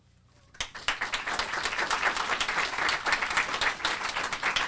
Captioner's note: audience applauding